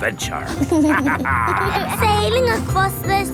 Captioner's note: captain dog and kids laughing